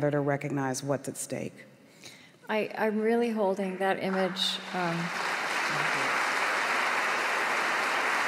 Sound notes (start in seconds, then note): 3.7 applause